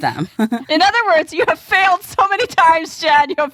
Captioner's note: laughs